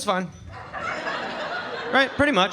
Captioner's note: audience laughing